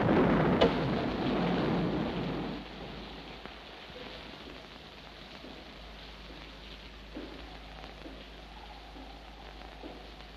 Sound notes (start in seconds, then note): 4.4 heavy footsteps